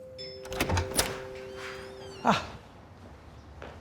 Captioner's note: doorbell dings; door clicks